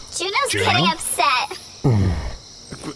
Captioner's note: laughs miserably; Juno neighs loudly